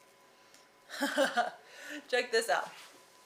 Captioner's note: chuckling